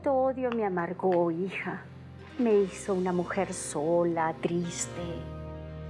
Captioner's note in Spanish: none